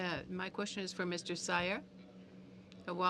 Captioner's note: speaking french